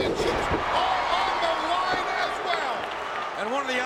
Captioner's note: audience cheers